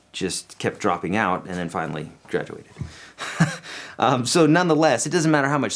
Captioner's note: laughs